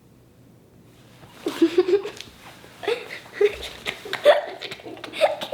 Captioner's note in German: kichert